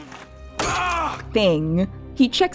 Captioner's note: Gross sounds and Silver yelling